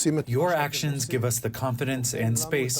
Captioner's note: through translator